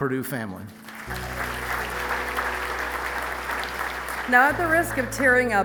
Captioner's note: audience applauding